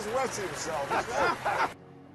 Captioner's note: all three laugh